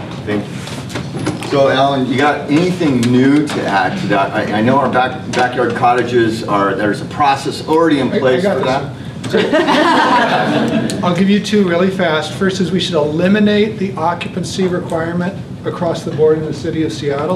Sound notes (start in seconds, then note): 9.3 laughter